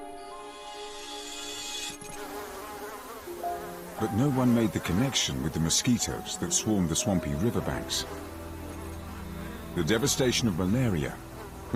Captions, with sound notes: But no one made the connection with the mosquitoes that swarmed the swampy riverbanks. (mosquitoes buzzing) (somber music) The devastation of malaria was as yet unknown.